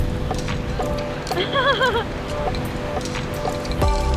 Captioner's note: laughs